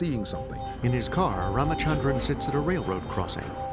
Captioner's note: train warning bells ringing